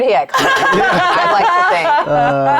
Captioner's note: players laughing